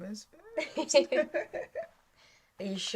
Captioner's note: Tilly and Linda laughing